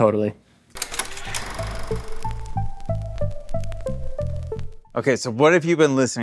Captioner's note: tape machine clicks